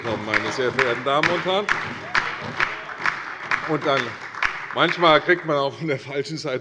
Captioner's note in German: Beifall bei der CDU, der SPD und der LINKEN